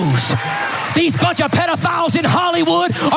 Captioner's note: applause